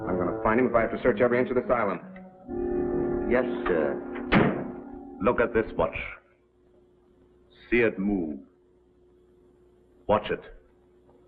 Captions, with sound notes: I'm gonna find him if I have to search every inch of this island. - Yes sir. [ DOOR SLAMMING ] Look at this watch. See it move. Watch it.